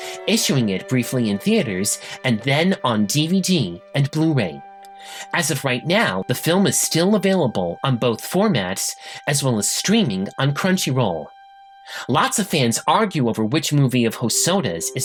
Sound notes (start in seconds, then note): none